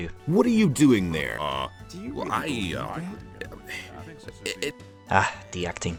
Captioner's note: feeling caught noises